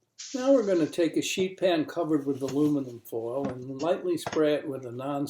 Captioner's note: using a TV announcer voice